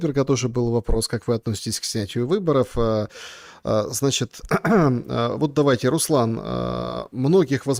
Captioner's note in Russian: откашливается